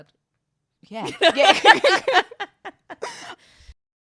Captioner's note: both laugh